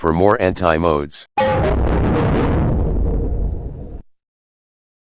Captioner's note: Anti Giga Windows XP Shutdown Sound